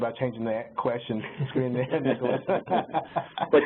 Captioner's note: laughing